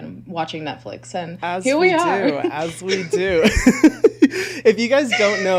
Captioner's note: laughs